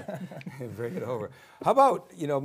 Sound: group chuckling

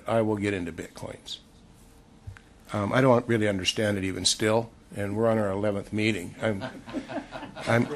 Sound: laughter

